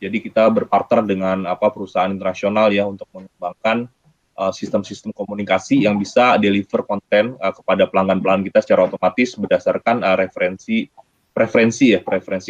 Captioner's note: speaking indonesian